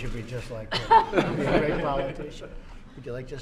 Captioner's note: laughter